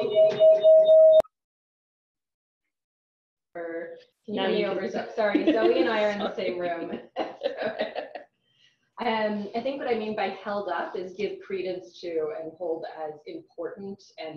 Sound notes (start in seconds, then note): 5.1 echo; 5.1 laughter